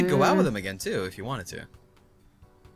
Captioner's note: frustrated humming noises; cry